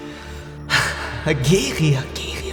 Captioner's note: chuckle